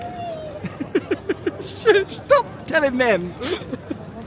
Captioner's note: giggles